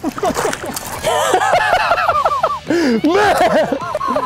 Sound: laughing

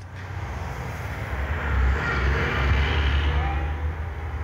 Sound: car engines roaring

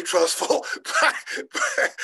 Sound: laughing

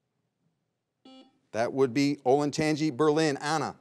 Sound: buzzer beeps once

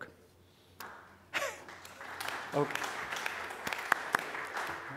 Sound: audience applauding

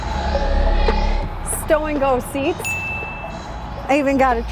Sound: bell dings

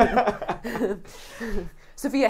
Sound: laughing

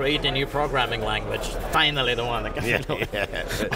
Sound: laughter

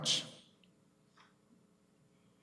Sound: none

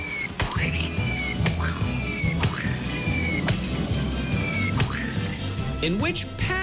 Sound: pigeon squeaking

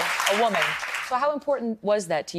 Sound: applause

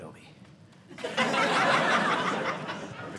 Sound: audience laughing

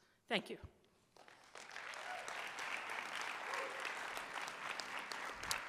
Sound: audience applauding

